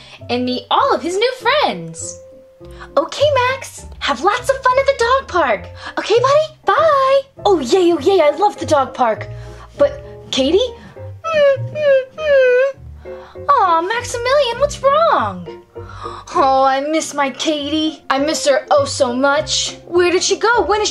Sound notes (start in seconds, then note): 11.1 whimpers